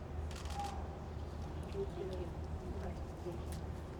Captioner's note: camera clicks